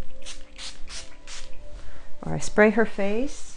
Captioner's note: spray bottle spritzing